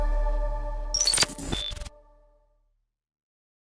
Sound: beeping

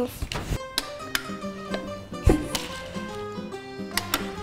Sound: button clicks

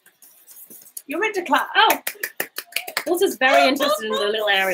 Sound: clapping

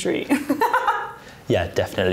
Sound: laughs

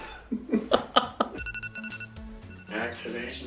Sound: alarm chiming; robotic Voice

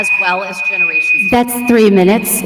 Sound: timer beeping

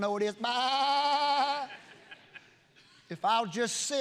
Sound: preacher imitating sheep sound

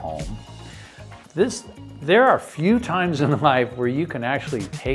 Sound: laughing

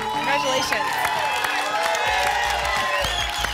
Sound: applause and cheering

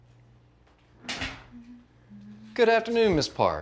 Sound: Alex humming; door clicks closed

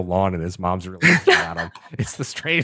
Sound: laughter

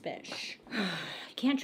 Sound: sighs

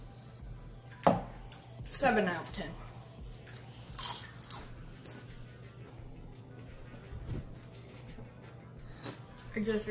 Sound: chrunches chips crunchingly

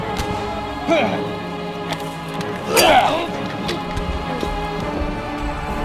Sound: gunshots booming; men yelling; men yelling faintly

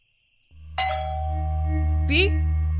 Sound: doorbell

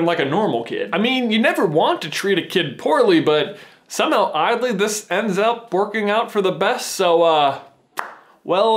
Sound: slow claps

